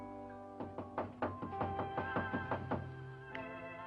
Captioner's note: knocking On Door